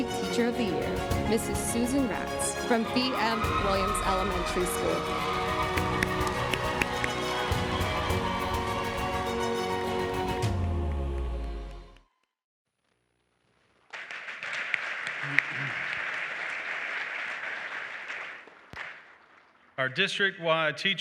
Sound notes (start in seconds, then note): 13.8 applause